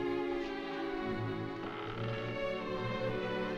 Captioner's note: floorboards Creaking